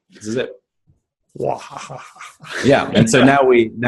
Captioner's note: laughs